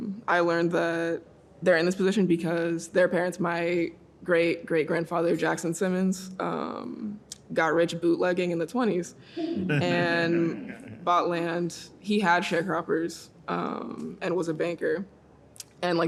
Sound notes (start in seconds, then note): 9.6 audience laughing